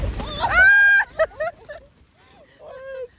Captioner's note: screaming